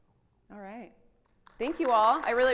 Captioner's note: audience applauding